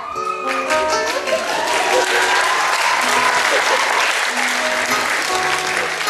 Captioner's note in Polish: oklaski